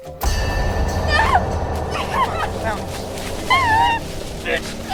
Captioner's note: woman screaming; suspenseful music